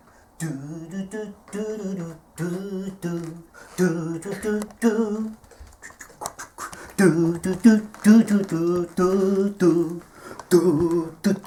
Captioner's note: humming theme to Charlie Brown